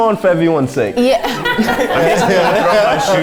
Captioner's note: laughter